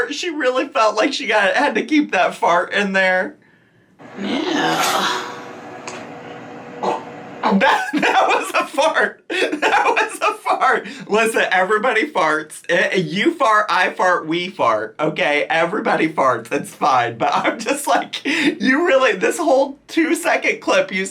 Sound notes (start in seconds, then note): 6.8 farting; 7.5 laughs